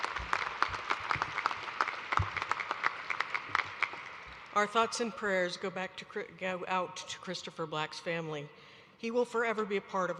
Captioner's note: applause